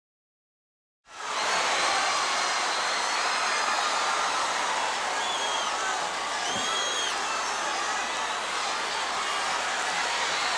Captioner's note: crowd chatter